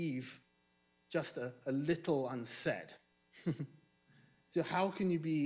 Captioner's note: chuckles